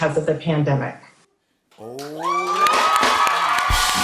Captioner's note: cheering and applause